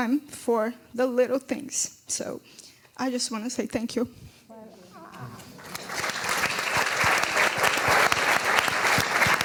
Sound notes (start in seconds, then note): 5.4 applause